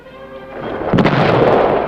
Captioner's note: suspenseful music; explosion